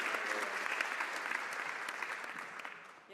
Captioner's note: some Applause